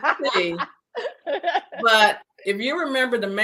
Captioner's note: laughing